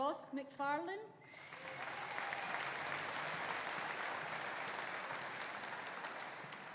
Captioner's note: audience applauding; audience cheering